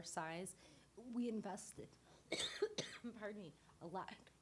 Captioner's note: coughing